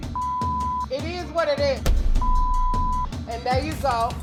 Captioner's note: beep; beep